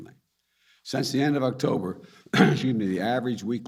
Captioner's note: coughs